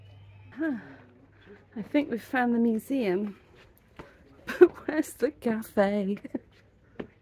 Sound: laughing

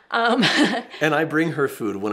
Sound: laughs

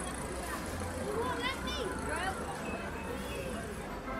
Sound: children chatter

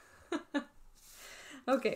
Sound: laughs

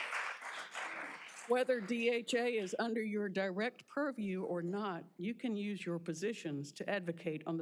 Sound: applause

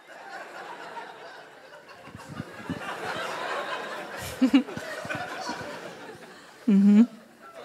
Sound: laughter

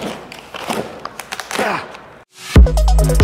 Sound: cardboard ripping; dubstep music

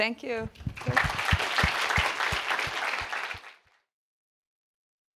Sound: applause

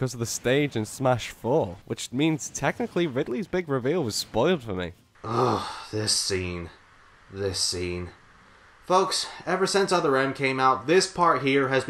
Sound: grunting

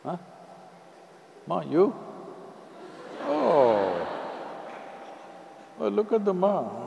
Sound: laughter

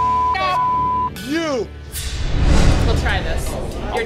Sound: beep

